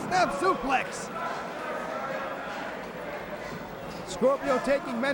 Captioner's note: crowd chatter